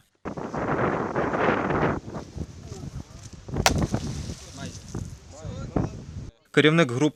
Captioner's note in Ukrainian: Шум вітру. Звуки води